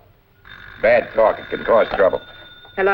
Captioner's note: phone Ringing